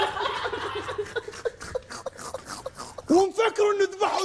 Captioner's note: all laughing; snort-laughing